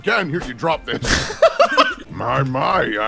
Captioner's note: laughter